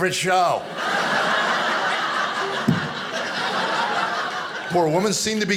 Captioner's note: audience laughing